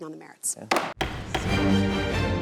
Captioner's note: gavel thudding; upbeat instrumental music